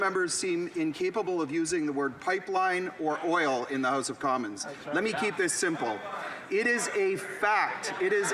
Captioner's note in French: voix de l'interprète